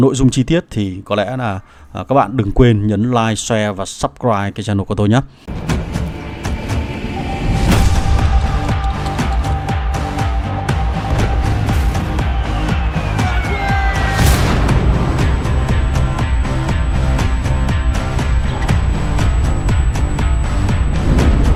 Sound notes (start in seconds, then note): 8.7 clap